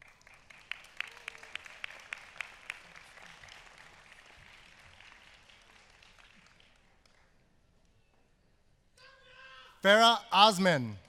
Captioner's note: applause